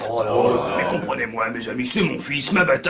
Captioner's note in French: Plaintes